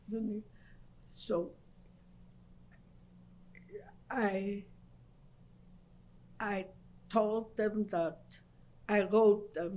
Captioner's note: pauses for 3 seconds; pauses for 3 seconds